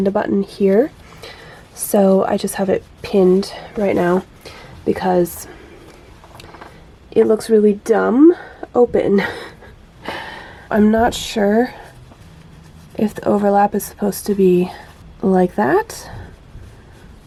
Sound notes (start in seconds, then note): 9.1 laughs